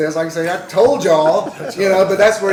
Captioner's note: laughter